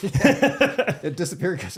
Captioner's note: laughing